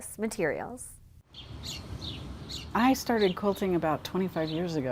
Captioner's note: birds chirping